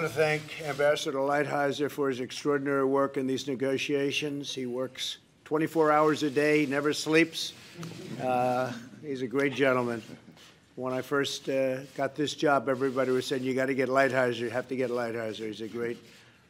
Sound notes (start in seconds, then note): 8.4 laughter